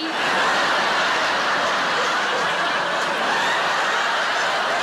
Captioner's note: audience laughing